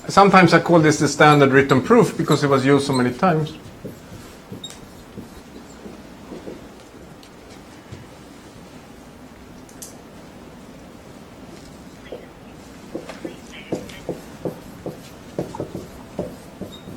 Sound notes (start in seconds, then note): 3.7 marker writing